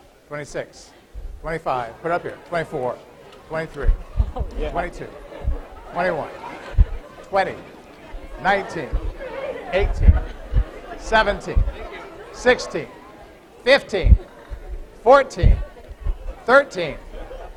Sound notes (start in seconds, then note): 4.5 laughter